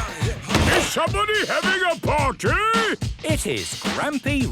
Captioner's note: shouts